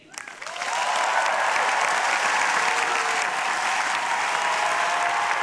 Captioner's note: audience applauding and cheering